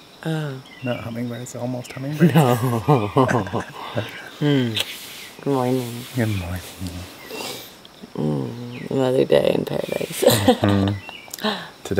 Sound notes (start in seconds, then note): 2.2 laughs; 10.0 laughs